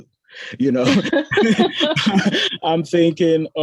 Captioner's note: both laughing